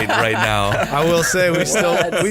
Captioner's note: laughs